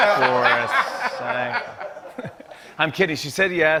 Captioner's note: laughter